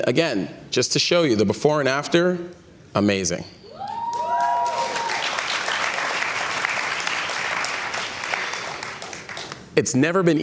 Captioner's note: cheers and Applause